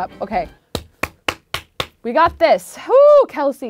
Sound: claps

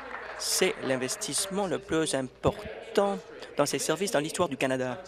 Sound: applause

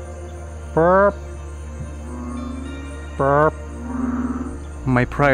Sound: speaking in jungle language

